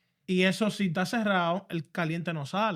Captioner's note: speaking Spanish